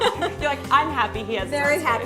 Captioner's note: laughter